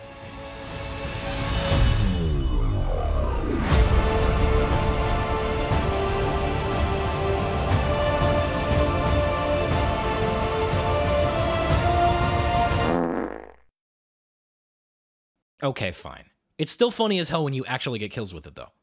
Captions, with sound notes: (fart sfx) Okay, fine. It's still funny as hell when you actually get kills with it though